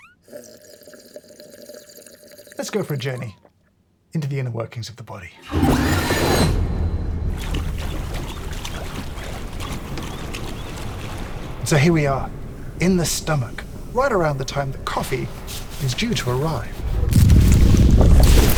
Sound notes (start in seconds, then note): 0.0 slurping; 7.5 acid sloshing